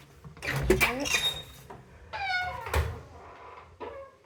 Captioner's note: door creak